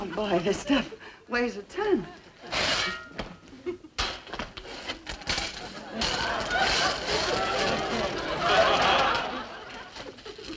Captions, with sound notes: Oh boy, this stuff weighs a ton. (metal clanging) (audience laughing)